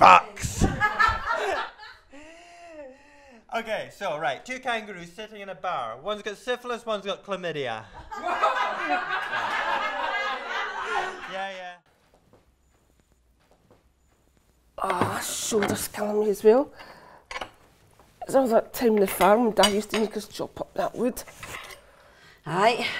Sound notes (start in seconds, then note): 0.5 laughter; 11.1 laughter